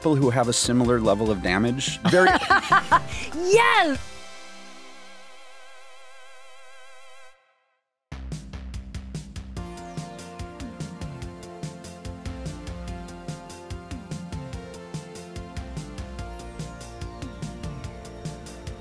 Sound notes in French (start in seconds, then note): 2.0 rires; 9.6 musique entraînante